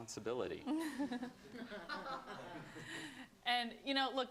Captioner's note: laughter